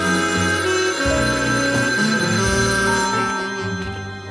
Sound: phone rings

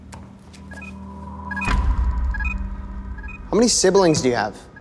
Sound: beeping

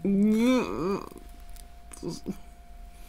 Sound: terrified Noises

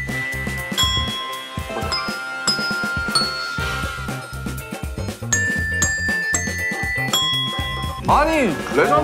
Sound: the bells from answer

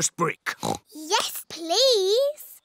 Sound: oinks

